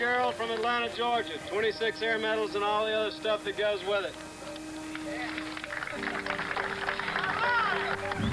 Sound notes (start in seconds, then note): 5.7 cheering